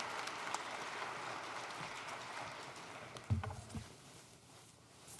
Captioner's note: applause